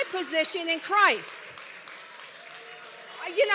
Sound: congregation applauds

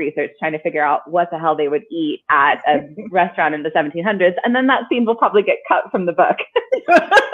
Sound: laughing

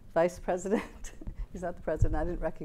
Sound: laughs

